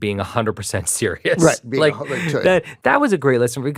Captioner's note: chuckles